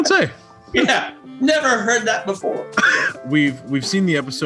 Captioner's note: laughs